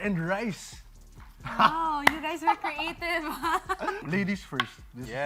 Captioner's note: chuckles